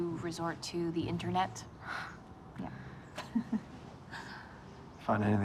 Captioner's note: chuckling